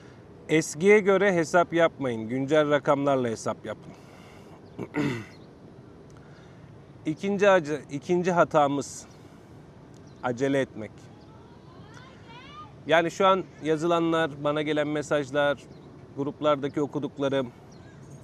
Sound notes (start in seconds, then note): 4.8 clears throat